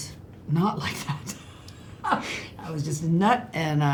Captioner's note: laughs